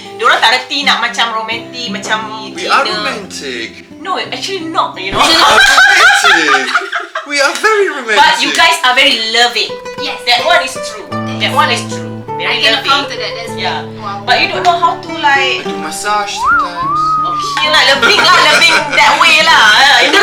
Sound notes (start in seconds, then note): 5.2 laugh